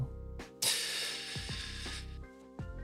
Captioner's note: sighing